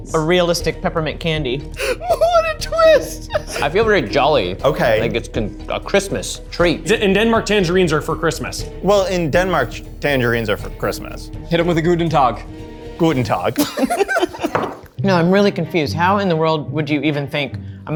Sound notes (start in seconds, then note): 13.3 all laughing